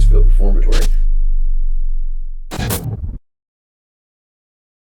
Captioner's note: static sounds